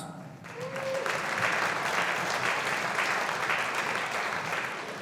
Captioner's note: audience applauding